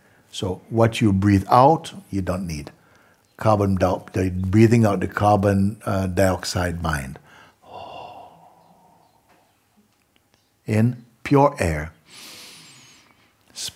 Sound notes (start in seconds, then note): 7.3 long exhale; 12.0 deep inhale